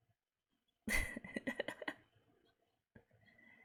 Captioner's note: laughs